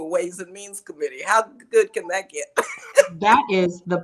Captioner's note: laughs